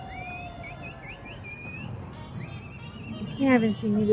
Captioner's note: speaking foreign language; person whistling